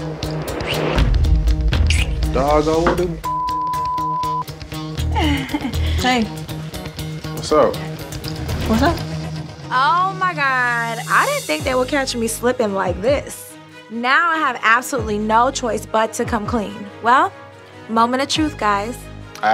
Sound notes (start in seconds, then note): 3.2 beep